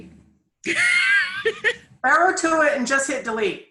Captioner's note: laughs